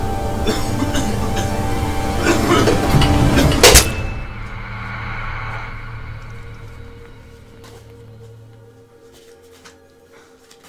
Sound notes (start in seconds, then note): 0.4 coughing; 3.4 blade slicing